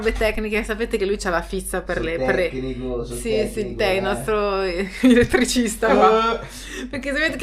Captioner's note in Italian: risate